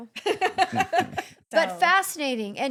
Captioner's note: laughing